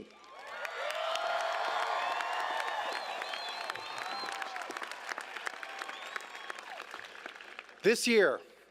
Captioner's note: cheers